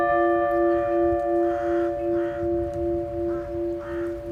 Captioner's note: bell rings; crows cawing